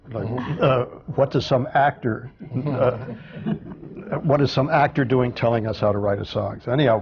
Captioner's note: laughter